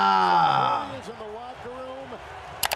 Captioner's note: video clicks